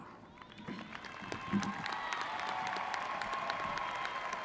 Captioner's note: graduates cheering